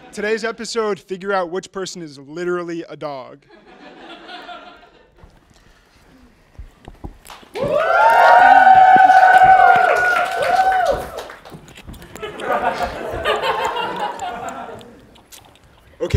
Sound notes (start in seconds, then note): 7.5 applause